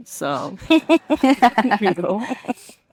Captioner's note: participant laughing